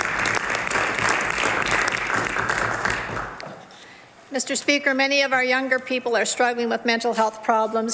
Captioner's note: some Applause